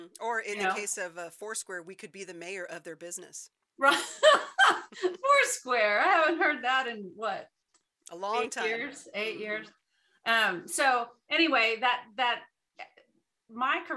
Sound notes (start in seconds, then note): 3.8 laughs